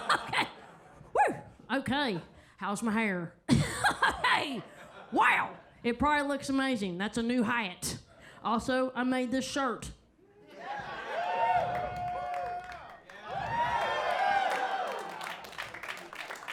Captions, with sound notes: Okay. Woo, okay. How's my hair? Hey. Wow. It probably looks amazing. That's a new hat. Also, I made this shirt. (audience cheers)